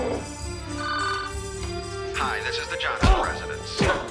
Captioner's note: phone rings